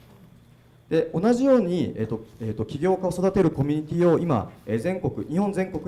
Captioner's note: speaking foreign language